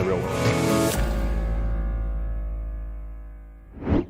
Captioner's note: swooshing